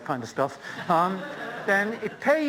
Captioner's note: laughter